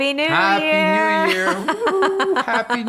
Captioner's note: laughing